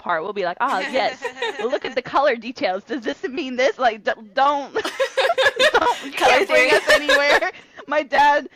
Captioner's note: laughter